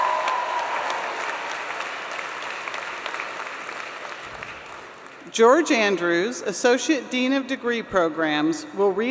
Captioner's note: applause